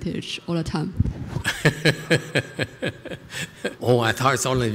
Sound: laughter

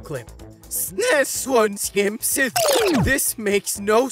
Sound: talking gibberish

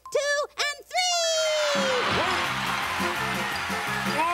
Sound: applause

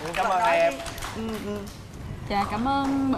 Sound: applause

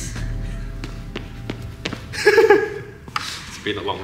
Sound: laughing

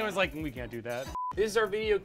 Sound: beep

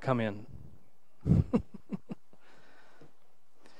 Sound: laughs

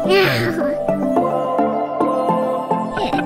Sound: upbeat music starts; toddler laughs; upbeat music continues

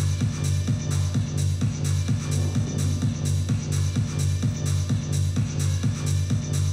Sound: none

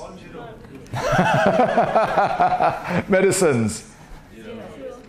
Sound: laughs

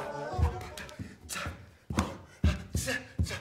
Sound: guy panting

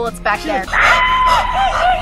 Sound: creepy laugh; panting

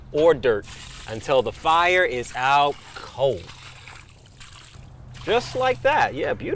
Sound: water splashing

